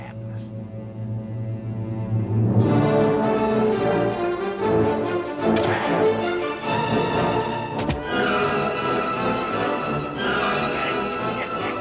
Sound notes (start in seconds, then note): 2.5 anticipatory music; 2.5 scuffling